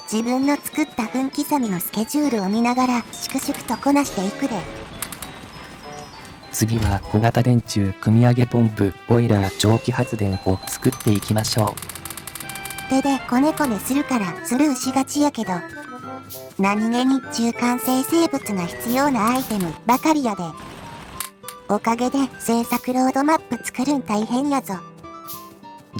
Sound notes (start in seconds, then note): 8.6 pump pump; 9.7 steam engine